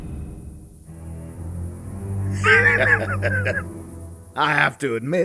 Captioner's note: laughs